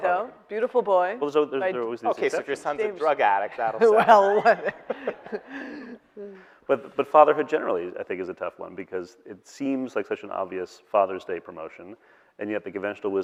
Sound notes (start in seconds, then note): 3.7 laughing